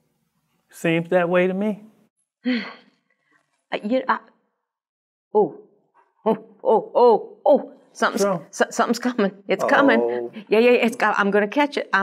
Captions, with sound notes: Seems that way to me. (exhale) I..you..I.. Oh. Oh. Oh. Oh. Oh. Something's... Something's coming. It's coming. Yeah, yeah, yeah, it's got... I'm going to catch it.